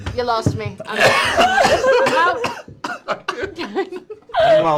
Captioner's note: laughter